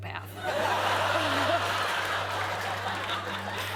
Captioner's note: laughter